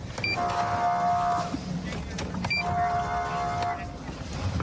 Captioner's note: horn blaring